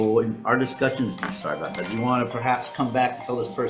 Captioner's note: phone ringing